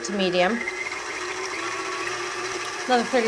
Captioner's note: stand mixer whirring intensifies